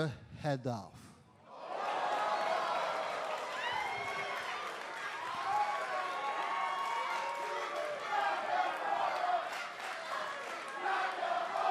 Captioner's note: crowd cheering